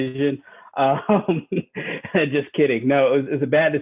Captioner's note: laughing